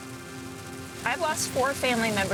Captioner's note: rain falling